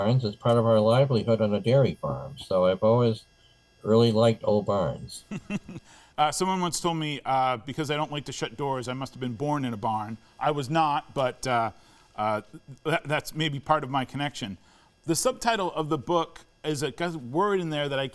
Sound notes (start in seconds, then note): 5.3 laughs